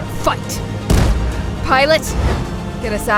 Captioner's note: faint cannon shot, miss